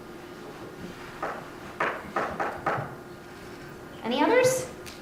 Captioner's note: tapping